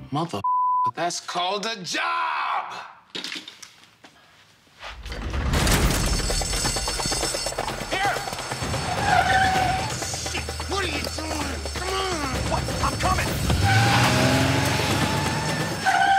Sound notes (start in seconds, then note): 0.4 beep; 5.0 alarm ringing; 5.0 cell door slamming; 6.7 upbeat music; 8.6 tires screeching; 12.2 engine revving